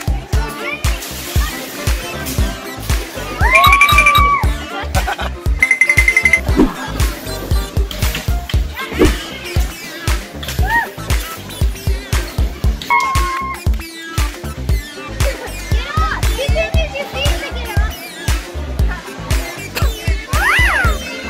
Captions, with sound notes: You win! [Upbeat music] The twins did amazing! But now it's time to challenge Jamie to the warped wall! [Cheers] Let's do this! First, let's do this! And that's the 12 foot! [Laughs]